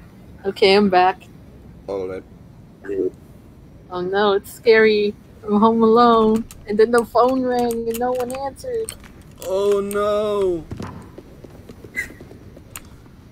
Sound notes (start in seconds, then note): 11.7 laughs